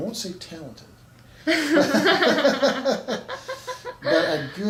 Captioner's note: laughs